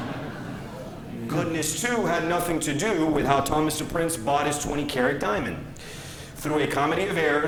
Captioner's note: laughter